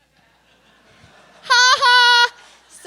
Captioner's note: laughter